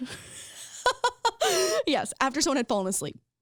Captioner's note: laughing